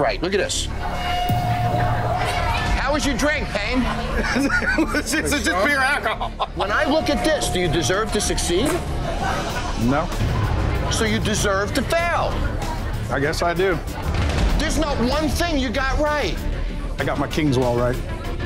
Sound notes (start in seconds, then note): 3.4 laughs